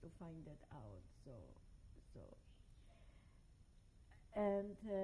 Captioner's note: pauses for 3 seconds